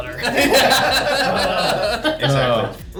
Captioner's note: all laughing